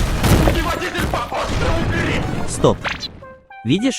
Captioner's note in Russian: Звуки избиения